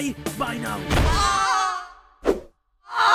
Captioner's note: paintbrush and oj scream